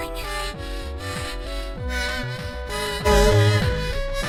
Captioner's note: hyperventilating